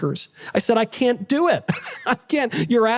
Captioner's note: laughter